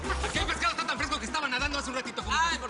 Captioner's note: Risas